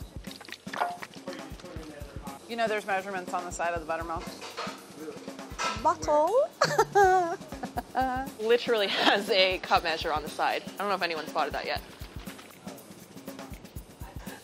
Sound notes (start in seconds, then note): 6.6 laughs